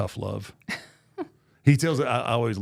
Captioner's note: laughing